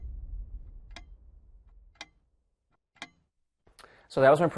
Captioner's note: clock ticking